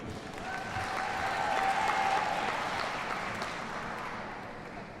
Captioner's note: audience cheers and applauds